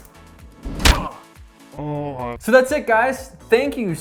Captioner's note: grunts